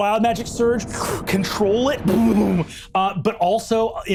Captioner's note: imitates energy thrumming